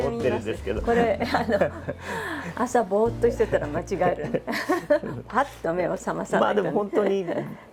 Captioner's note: laughs